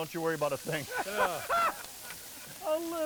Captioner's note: all laughing